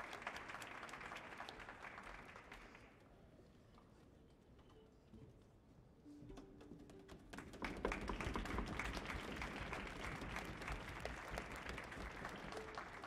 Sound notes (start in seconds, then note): 7.3 applause from orchestra and audience